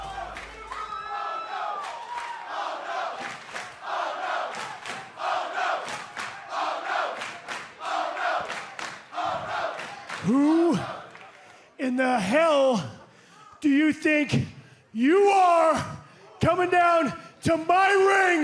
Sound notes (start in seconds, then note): 0.9 fans chanting